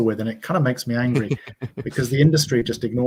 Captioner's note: laughing